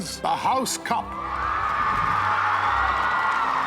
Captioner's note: cheering